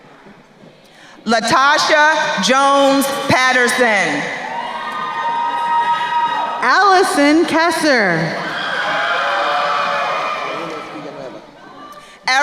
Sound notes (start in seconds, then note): 4.7 crowd cheering; 8.8 crowd cheering